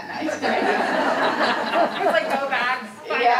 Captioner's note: audience laughing